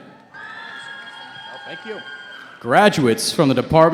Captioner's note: cheering